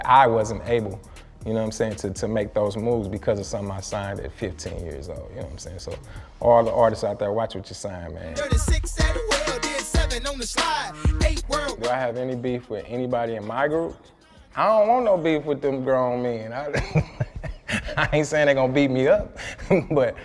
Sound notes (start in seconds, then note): 16.7 laughs